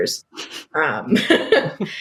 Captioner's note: laugh; laughs